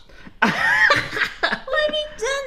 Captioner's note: laughs